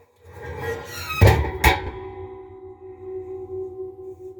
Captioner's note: metallic Ringing Sound